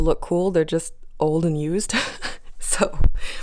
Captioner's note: laugh